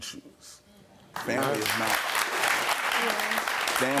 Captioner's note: audience clapping